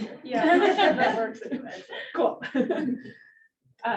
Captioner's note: audience laughs